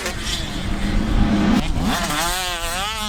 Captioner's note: whoosh sfx